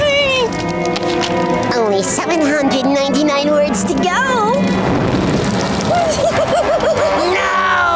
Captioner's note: laughing